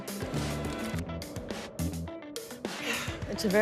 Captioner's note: sniffs